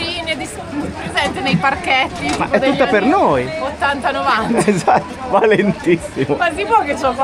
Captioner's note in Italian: risate